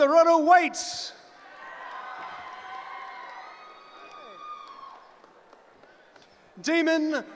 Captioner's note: cheering